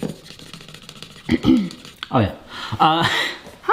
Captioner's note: paper scratching; clears throat